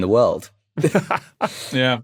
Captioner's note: both laugh